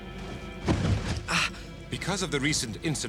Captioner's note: gasps